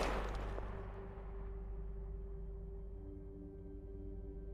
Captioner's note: gunshot